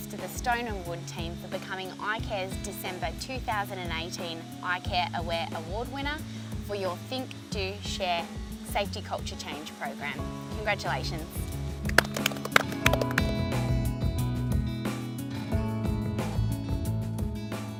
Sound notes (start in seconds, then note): 11.8 applause